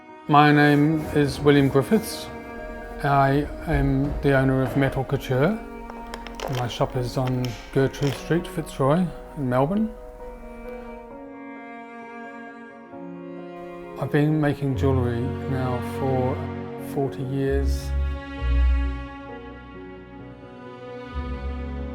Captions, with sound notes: My name is William Griffiths. I am the owner of Metal Couture (key clicking) and my shop is on Gertrude street, Fitzroy in Melbourne. I've been making jewelry now for 40 years.